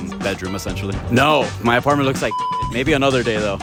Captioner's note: beep